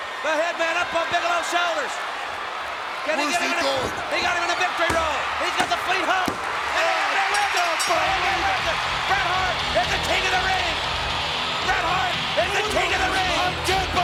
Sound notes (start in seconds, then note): 7.3 bell rings; 7.3 crowd cheering